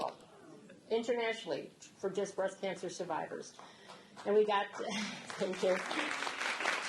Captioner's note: audience clapping